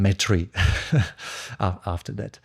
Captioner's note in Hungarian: nevetés